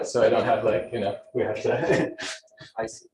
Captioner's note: laughs